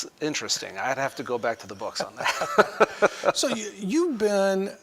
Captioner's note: laughter